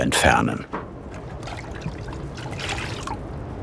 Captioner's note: splashing of water